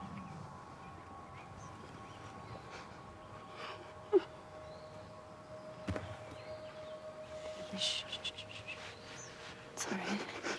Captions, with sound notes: [birds chirping] [crying] Shh, shh. It's all right.